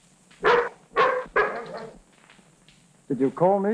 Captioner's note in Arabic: نباح الكلب